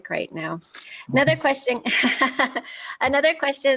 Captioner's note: laughs